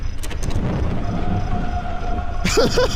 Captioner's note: distant wailing gets louder; laughs